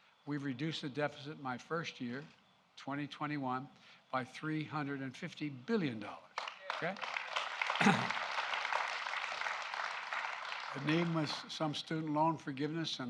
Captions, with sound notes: We've reduced the deficit in my first year, 2021, by $350 billion. Okay? (Applause.) And even with some student loan forgiveness